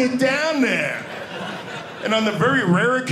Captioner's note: audience laughing